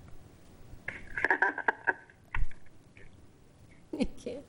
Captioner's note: laugh